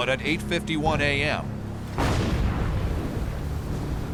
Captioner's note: explosions